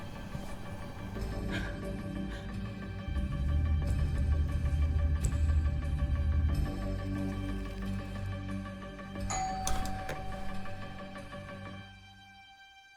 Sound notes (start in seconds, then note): 2.9 discomforting rumble; 9.2 door chimes